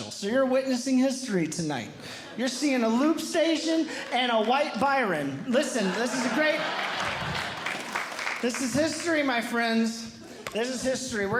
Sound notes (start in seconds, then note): 6.7 audience Laughing